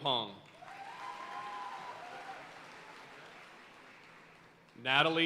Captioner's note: audience cheering and applauding